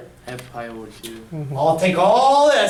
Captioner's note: voiceover